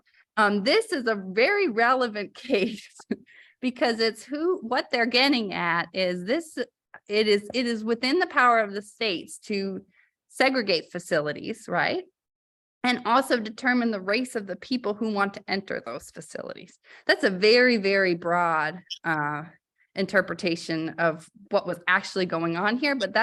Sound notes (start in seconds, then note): 2.5 laughter